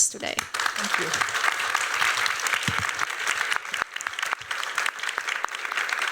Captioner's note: applause